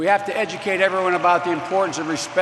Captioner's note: applause